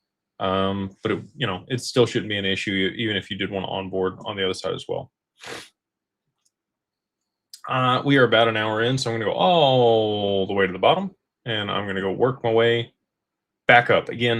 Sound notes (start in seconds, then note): 5.4 snorts